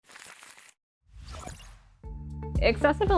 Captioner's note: logo explosion